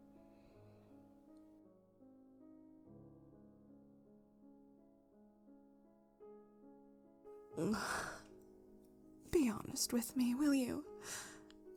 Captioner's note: grunts